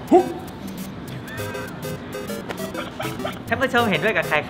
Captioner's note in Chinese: 大笑